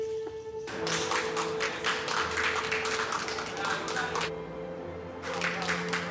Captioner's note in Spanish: Aplausos